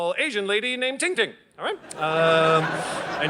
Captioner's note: audience laughing